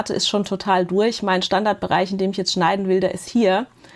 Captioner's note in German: none